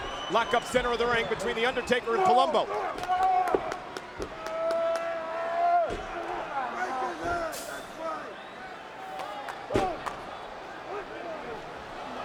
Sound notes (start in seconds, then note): 3.2 crowd chattering; 3.2 fighters grunting